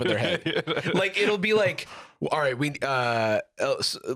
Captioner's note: laughing